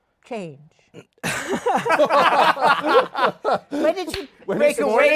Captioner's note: laughter